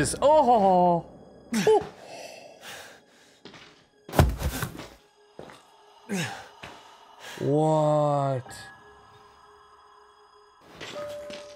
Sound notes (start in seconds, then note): none